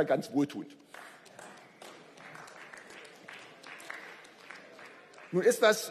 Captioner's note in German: Beifall